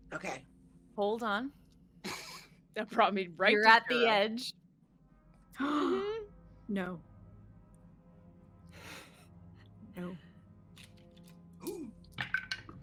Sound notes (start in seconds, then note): 5.7 gasps